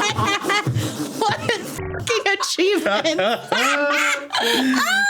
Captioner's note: laughing; buzzing; laughing